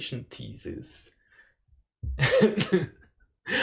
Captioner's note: chuckles